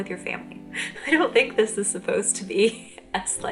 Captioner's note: chuckle